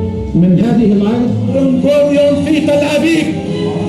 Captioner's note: he speaks in his own language